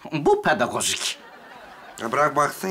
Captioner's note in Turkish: Gülme efekti